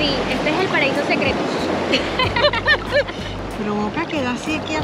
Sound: laughs

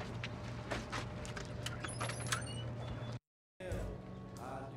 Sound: door creaks open, sound of music from inside

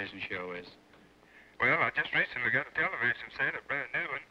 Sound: on phone

